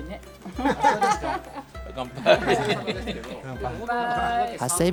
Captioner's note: laughter